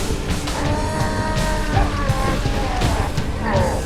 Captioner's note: roar